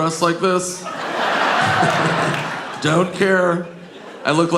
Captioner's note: audience laughing